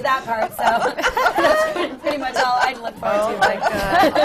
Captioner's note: laughter